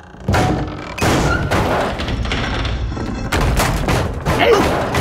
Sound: thudding

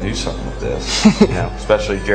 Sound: laughing

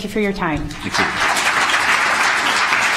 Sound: applause

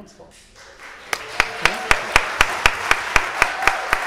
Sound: audience applauding

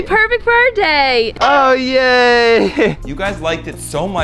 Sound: laughs nervously

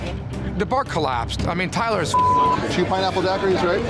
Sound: beep

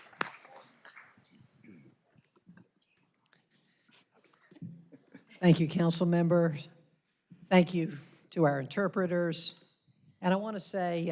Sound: applause

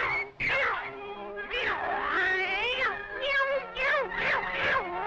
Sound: caterwauling

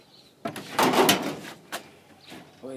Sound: door thuds

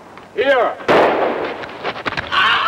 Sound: weapon firing

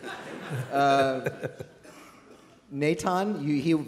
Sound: laughter

